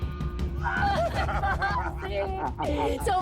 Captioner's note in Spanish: Risas